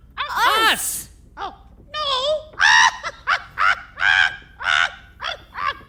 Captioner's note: laughs